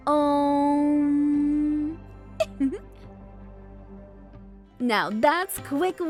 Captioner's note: giggles